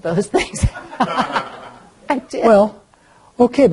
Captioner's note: audience laughing